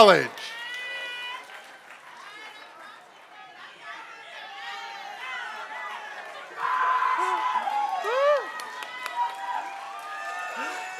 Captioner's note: applause